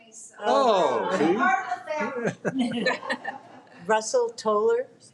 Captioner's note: speaks faintly; people laughing